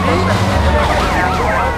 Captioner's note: sirens blaring; speaking foreign language